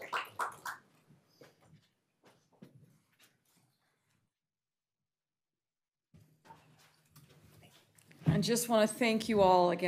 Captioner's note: applause